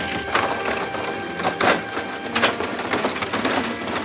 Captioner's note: wood creaking